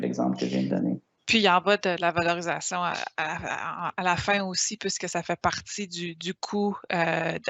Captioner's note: speaking in foreign language